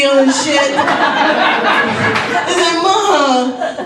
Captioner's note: audience laughs